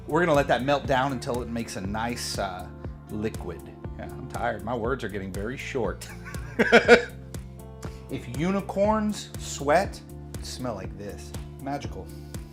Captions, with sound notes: We're gonna let that melt down until it makes a nice liquid. Yeah, I'm tired, my words are getting very short. (laughing) If unicorns sweat, it would smell like this, magical.